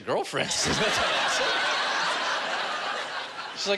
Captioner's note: laughter